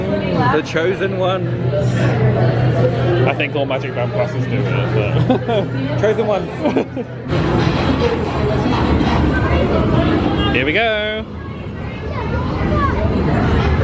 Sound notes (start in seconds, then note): 6.4 laughs; 7.3 ride clattering; 8.0 people chattering